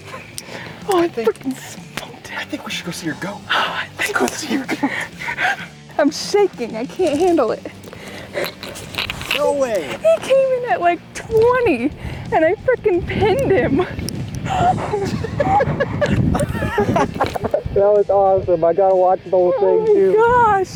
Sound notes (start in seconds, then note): 14.4 both laughing